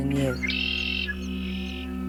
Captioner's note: songbird